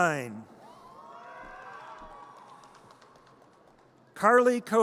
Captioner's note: audience cheers